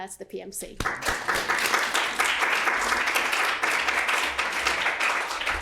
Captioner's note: audience clapping